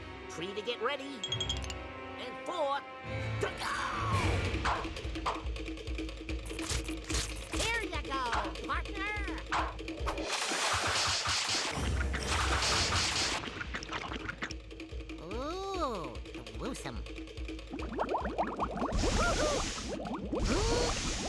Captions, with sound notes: 3 TO GET READY. AND 4 TO GO! HERE YOU GO, PARTNER. OOH, GRUESOME. [water bubbling] [groaning]